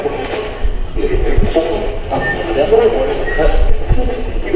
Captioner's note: pulsing static